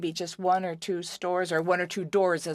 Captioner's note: speaking French